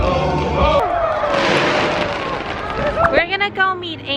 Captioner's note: fireworks & Cheering